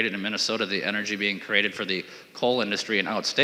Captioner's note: talking too fast